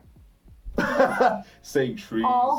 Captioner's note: laughs